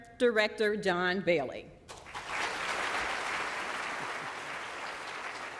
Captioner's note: applause